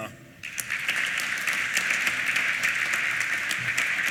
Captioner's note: applause